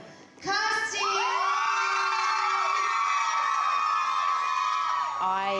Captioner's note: everyone cheering